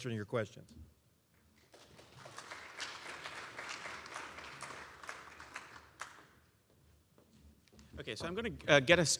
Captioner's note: applause